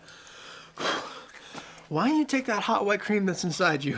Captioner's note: beep